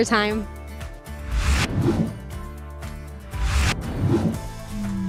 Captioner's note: air whooshing